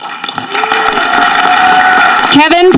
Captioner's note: audience clapping